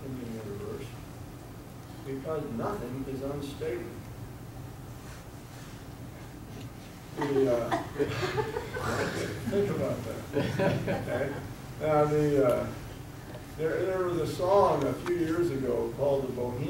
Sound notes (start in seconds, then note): 7.1 audience giggling